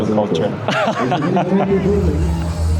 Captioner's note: laughter